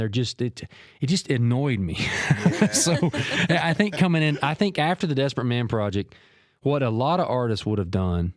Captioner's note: laughed